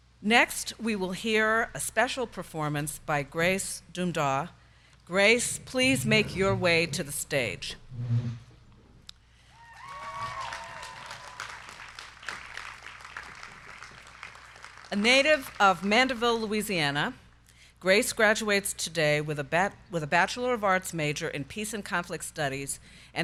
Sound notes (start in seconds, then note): 9.6 crowd cheering; 9.7 crowd clapping